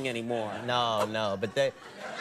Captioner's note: audience laughing